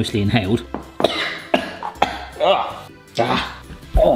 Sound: coughing

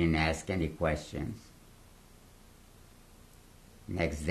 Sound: pauses for 3 seconds

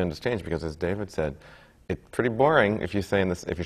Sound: none

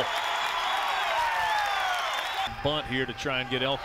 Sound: cheering and clapping

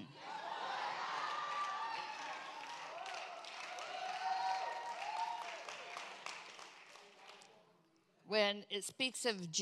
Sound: congregation cheers

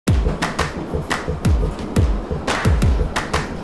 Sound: tube train rumbling

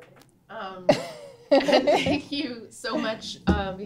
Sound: laughs

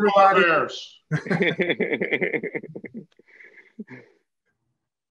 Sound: panelists laugh

